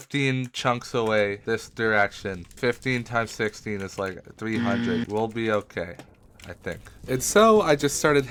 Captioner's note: incorrect buzzer